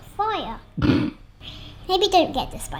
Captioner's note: snorts